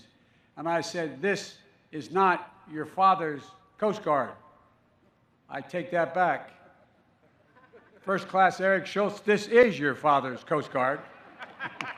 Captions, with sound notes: And I said, "This is not your father's Coast Guard." I take that back. (Laughter.) First-Class Eric Schultz, this is your father's Coast Guard.